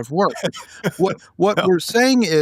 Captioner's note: laughing